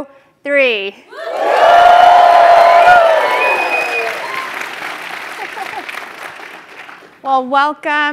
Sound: applause

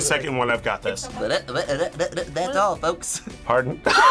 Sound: stutters; both laugh

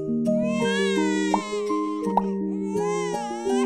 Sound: baby crying

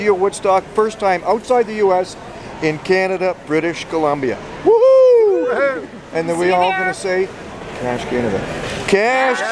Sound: whispers

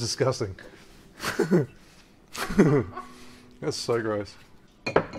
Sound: laughing

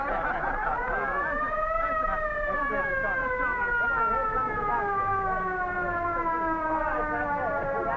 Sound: siren; men cheer

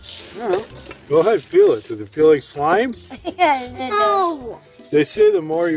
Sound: laughing

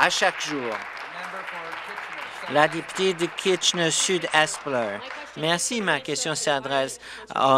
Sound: applause

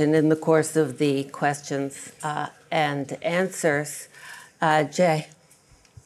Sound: none

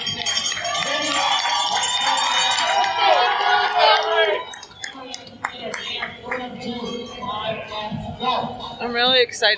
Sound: bell ringing, crowd cheering, PA Announcer speaking unintelligibly

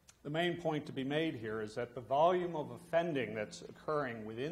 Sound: none

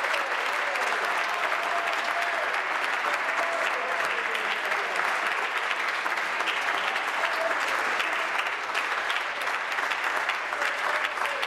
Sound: applause

